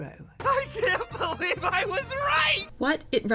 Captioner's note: Jax, laughing